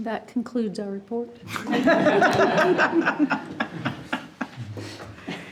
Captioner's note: group laughing